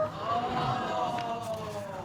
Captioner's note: audience gasps